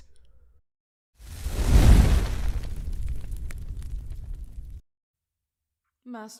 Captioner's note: fire crackles briefly